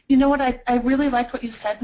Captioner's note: voiceover